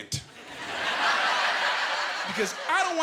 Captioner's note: laughing